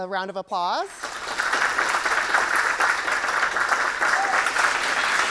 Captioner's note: audience clapping